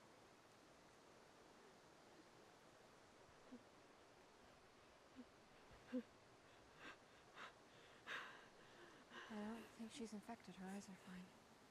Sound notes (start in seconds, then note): 5.8 whimpering